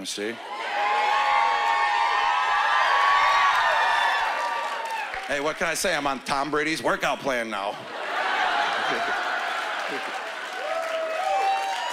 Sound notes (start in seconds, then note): 0.4 whooping; 4.6 cheering and applause; 7.8 laughter